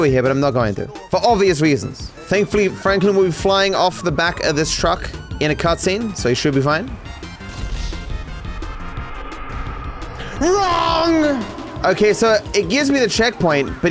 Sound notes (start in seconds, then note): 10.3 voice echoes